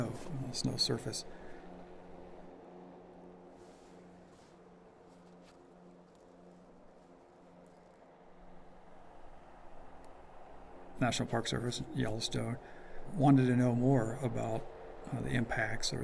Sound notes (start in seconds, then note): 5.2 snow coach sounds